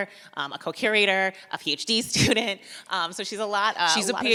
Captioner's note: chuckles